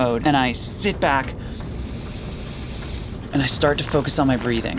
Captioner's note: inhaling